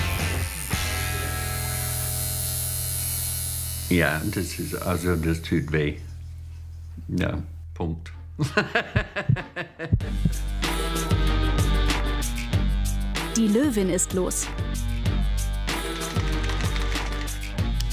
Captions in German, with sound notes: (Penetrantes Nadeldröhnen) Ja ... Das tut weh. Ja, Punkt. (Herzpochen) (Lässige Musik) Die Löwin ist los.